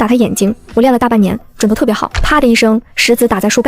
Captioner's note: thud